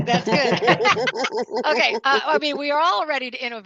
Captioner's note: laughing